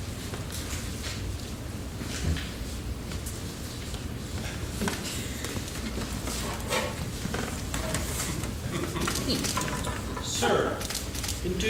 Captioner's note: laughing